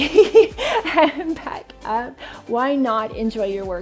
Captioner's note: laughs